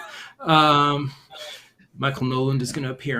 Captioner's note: laughter